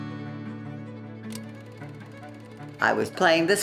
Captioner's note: camera clicks and whirs